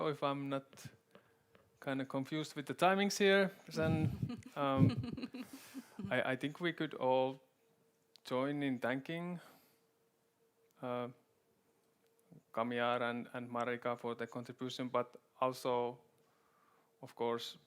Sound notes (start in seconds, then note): 3.8 chuckles